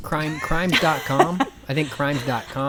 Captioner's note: laughing